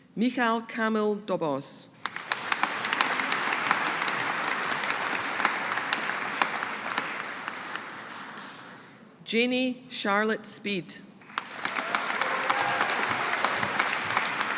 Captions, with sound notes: Michal Kamil Dobosz. (AUDIENCE APPLAUDING) Janey Charlotte Speed. (AUDIENCE APPLAUDING)